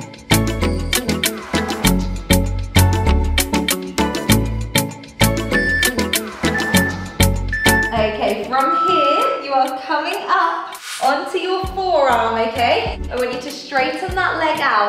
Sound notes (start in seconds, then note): 6.4 timer beeping